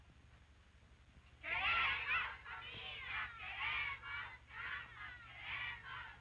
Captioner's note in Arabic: نساء يرددن شعارات باللغة الإسبانية